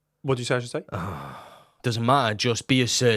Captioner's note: sighs